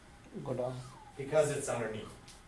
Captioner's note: voiceover